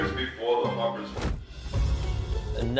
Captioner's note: swooshes